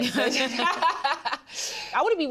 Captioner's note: both laugh